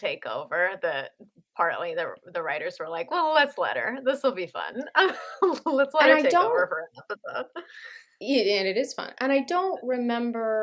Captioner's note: laughter